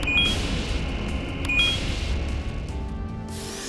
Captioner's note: beeps